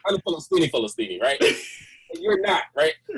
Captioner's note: laughs